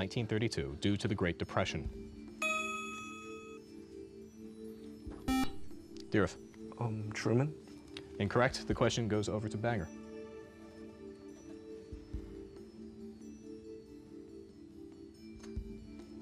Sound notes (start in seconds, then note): 5.2 buzzer